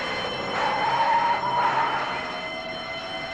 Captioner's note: tires screeching